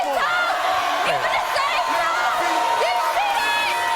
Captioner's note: audience cheering